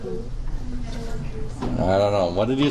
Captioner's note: background mumbling